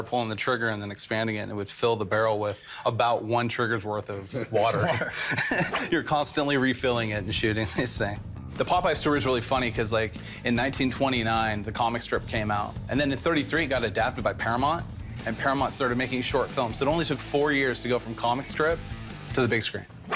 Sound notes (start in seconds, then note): 7.6 laughter